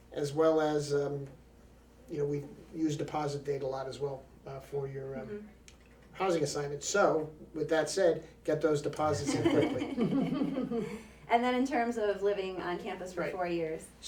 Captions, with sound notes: as well as, we use deposit date a lot as well for your housing assignment. So, with that said, get those deposits in quickly. (all laughing) - And then, in terms of living on campus for four years.